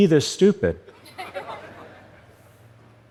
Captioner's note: laughter